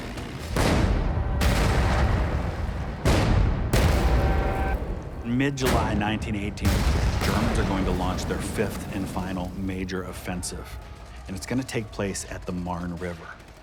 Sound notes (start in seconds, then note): 0.0 engines whirring; 0.3 dramatic music; 1.0 cannon fire